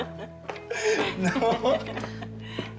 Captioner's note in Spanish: risas